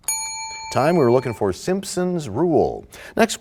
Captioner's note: bell rings, time expires